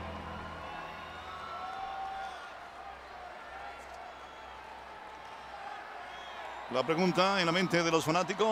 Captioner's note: applause